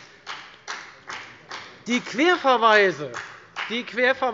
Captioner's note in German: Beifall bei der FDP